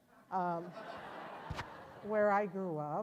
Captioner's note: audience laughs